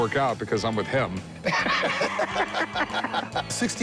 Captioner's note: laughter